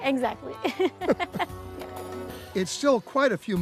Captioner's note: laughing